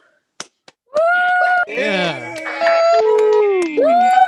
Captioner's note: cheering